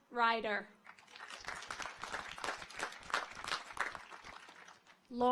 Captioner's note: audience applauds